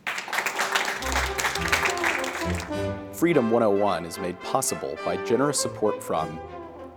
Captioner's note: applause